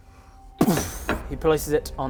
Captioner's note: boof